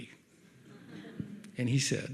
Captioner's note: audience laughs